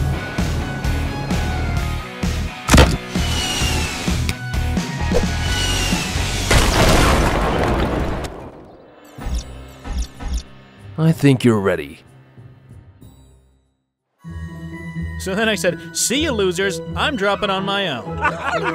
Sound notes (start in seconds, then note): 6.4 explosion booming; 14.2 upbeat calm music